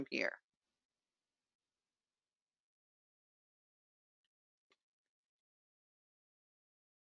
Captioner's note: 5 seconds pause